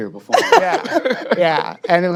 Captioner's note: laughing